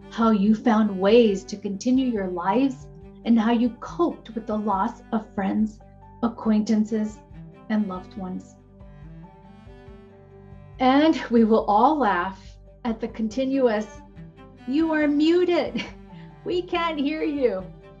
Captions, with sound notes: how you found ways to continue your lives and how you coped with the loss of friends, acquaintances and loved ones. And we will all laugh at the continuous. You are muted (chuckles). We can't hear you.